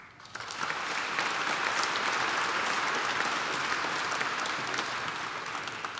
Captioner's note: applause